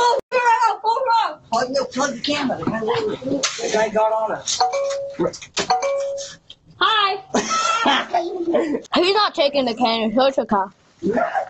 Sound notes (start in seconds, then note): 0.1 murmurs; 7.3 laughs